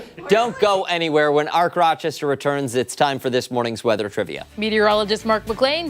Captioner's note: laughter